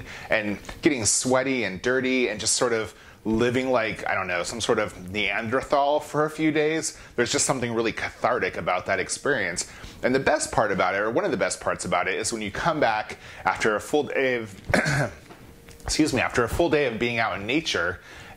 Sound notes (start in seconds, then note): 14.7 clears his throat